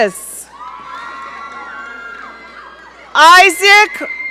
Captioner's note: audience cheering